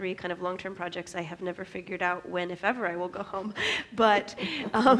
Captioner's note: laughs